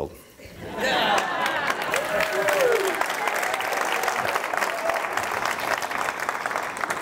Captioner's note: applause